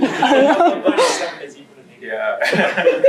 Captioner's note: laughter